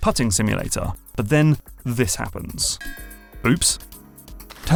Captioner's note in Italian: rumore metallico